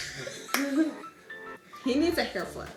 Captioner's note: giggling